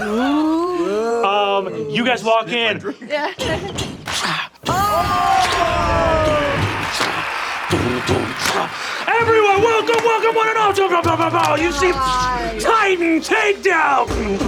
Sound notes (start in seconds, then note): 0.3 players oohing; 6.3 players cheering